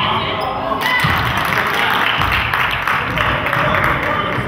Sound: crowd claps

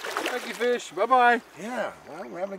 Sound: fish splashing

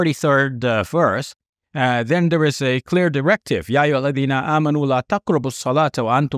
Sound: speaks Arabic

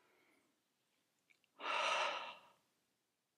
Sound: deep exhale

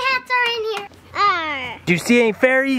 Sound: imitates Pirate Voice

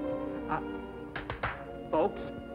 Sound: gentle romantic music; clapping

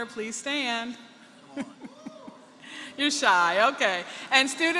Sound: laughter

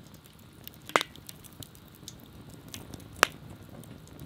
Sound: fire crackling

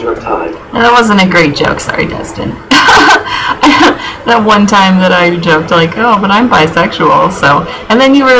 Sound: laughing

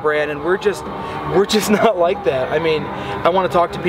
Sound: chuckles

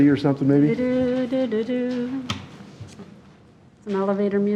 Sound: hums

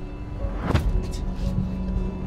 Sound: slam

